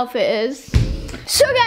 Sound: thump

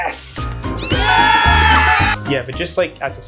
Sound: people cheering

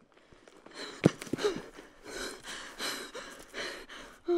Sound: woman panting

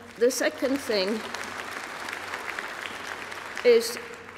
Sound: applause

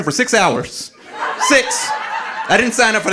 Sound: audience laughing

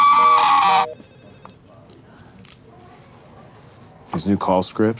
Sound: phone ringing; Gavin screaming

